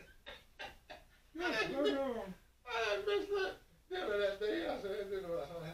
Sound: laughing at self

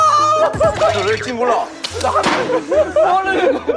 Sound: everyone burst out laughing

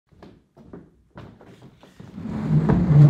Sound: footsteps walking; furniture screeching

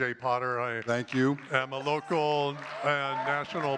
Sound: audience cheers and claps

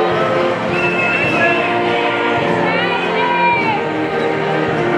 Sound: people cheering

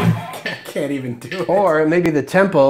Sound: laughing

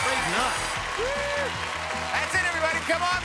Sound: applause

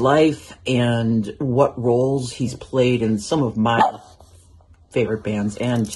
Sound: woof!

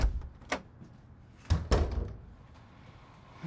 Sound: Jack's footsteps; door opens; door closes

